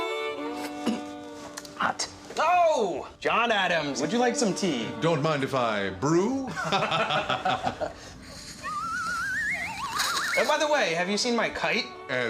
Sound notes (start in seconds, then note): 6.5 both laugh; 8.6 slide whistle plays